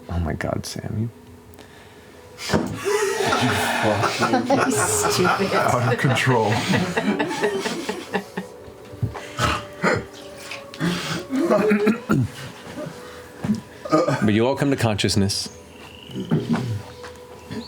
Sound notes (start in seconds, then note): 2.7 laughter; 11.2 throat clearing